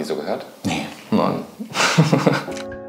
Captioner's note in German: Lachen; Ruhige Musik